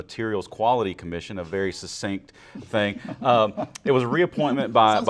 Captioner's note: laughing